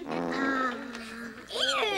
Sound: belching

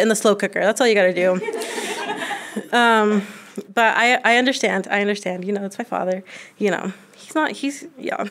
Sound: laughter

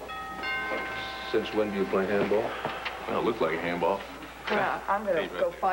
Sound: doorbell rings

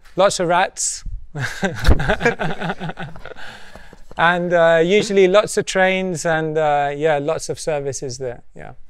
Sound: laughs

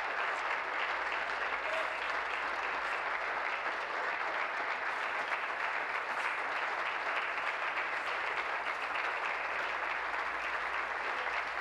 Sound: applause

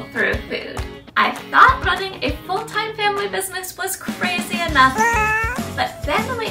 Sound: weak baby cry

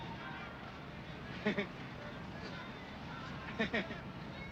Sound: chuckles

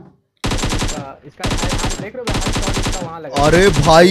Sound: gunshots, indistinct words

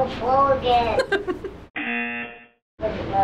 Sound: buzzer

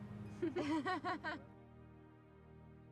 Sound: all laugh in agreement

